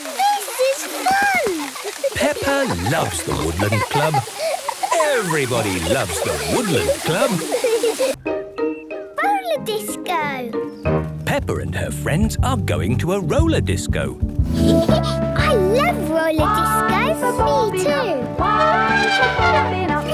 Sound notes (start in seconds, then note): 1.4 laughter; 7.3 laughter; 14.6 Peppa laughing; 18.4 trumpeting